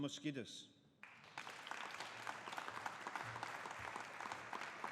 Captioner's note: audience applauding